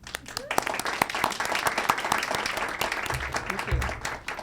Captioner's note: audience applauds